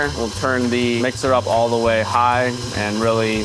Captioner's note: mixer whirring